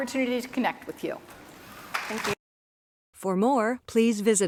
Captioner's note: applause